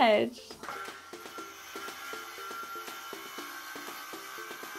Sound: cutting wood

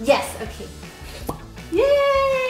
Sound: wine bottle pops

